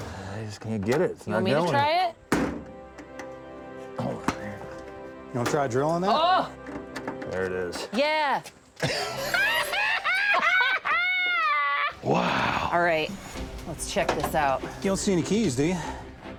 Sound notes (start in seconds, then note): 2.7 pounding; 8.8 laughing